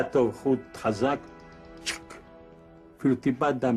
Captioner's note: sound of a ball sack getting cut